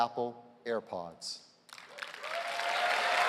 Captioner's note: cheers and applause